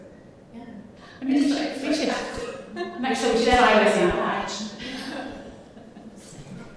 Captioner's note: indistinct overlapping conversations